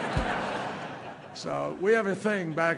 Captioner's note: laughter